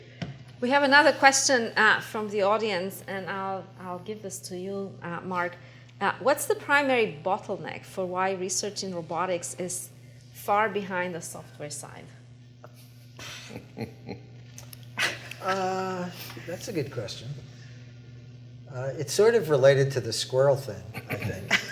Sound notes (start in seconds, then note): 13.2 chuckles